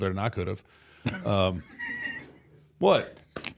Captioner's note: Mark laughing